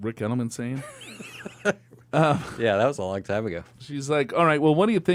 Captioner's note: laughs